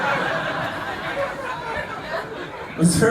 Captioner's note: laughter